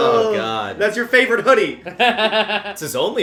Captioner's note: laughter